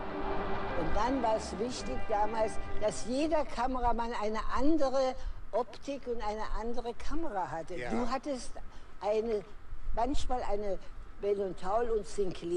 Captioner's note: foreign language